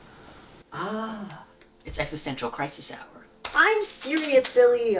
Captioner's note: wistfully